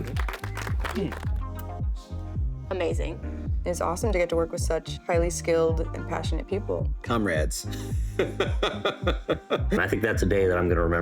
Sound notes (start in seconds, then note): 7.7 laughter